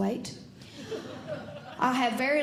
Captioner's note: audience Laughing